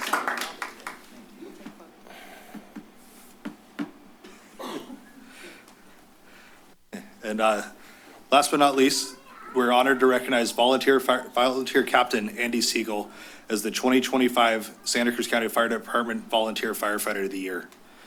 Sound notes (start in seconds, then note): 0.0 applause; 0.9 shuffling sounds